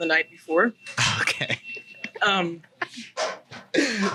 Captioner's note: laughs